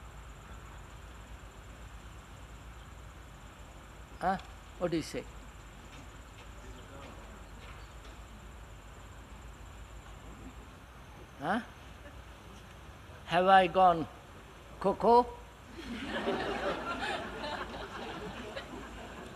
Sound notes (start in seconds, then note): 15.7 laughter